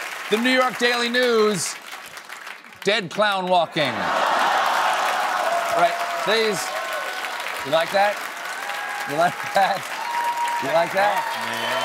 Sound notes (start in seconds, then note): 5.1 laughter; 11.6 cheers and applause